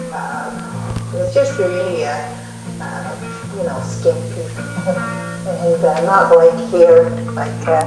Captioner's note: laughter